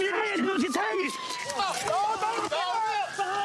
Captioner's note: yells